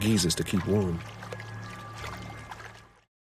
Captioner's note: water sloshing